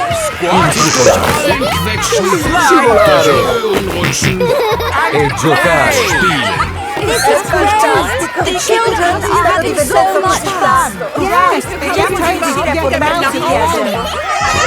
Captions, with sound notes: -Squash... -(GIGGLES) -Slide... -(SNORTING) And play! This is great! The children are having so much fun! Yes. I just hope we can get them out at the end!